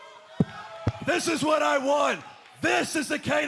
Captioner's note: fans chanting